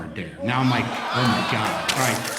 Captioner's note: laughter